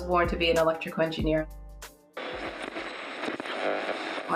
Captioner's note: sounds of tuning a transistor